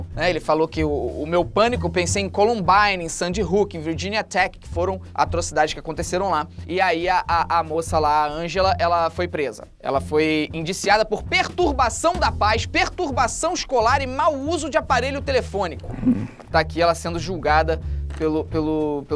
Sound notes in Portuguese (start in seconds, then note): 15.8 faz som de surpresa